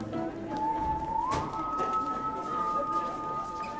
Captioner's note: students talking in distance